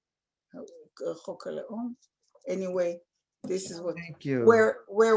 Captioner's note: non-english